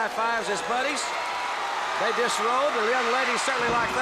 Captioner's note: crowd cheering